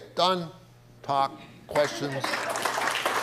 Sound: audience applauding

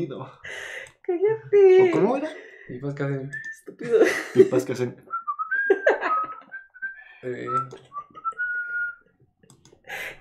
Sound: guys cracking jokes with whistle sounds while laughs embarrassed

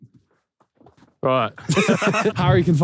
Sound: Simon and Josh laughing

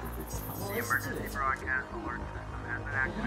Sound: robotic beeps heard softly in background; radio broadcasting

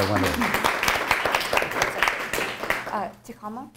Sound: applause

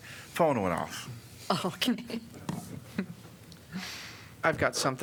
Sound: laughter

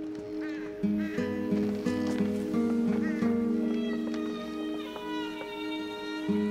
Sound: dramatic music; bird cawing

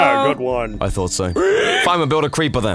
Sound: reuben screaming

